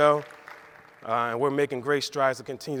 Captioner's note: audience claps